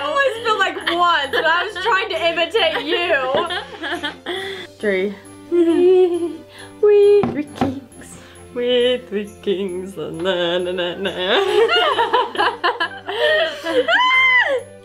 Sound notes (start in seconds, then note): 2.6 laughs; 11.2 both laugh